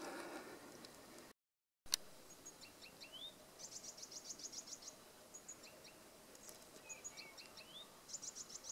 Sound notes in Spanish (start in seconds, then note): 2.2 trinos de pájaros